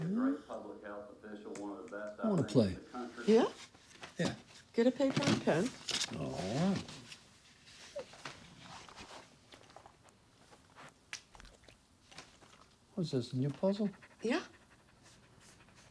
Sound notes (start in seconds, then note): none